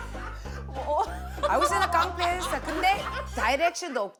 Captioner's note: lost in laughter